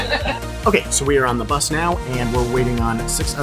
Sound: laughs

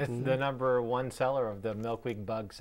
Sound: chuckling

